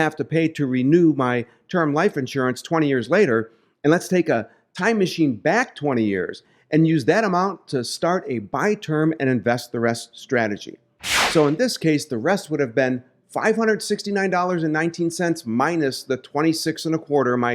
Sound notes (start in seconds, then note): 11.0 air whooshing